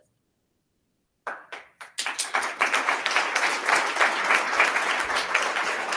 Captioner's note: attendees applauding